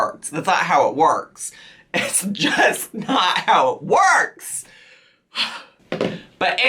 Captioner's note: sighs